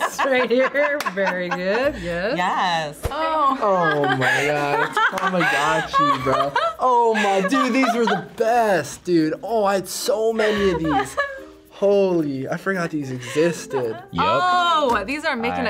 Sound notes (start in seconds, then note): 3.3 laughs